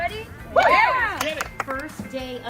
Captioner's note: team applauds